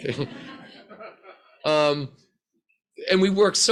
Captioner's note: crowd laughs